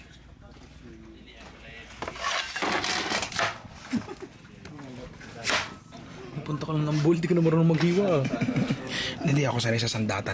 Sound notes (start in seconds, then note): 3.8 laughs